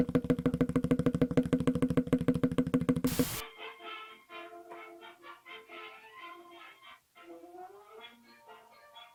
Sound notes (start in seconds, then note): 3.0 static crackles; 3.5 whimsical music